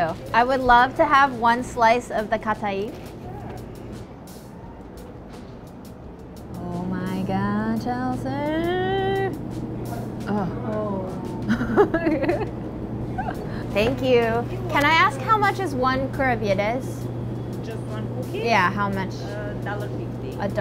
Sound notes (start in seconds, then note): 11.4 giggling